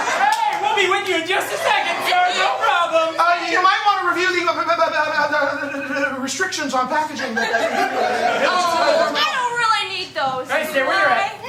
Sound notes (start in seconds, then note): 0.0 laughter; 6.1 stutters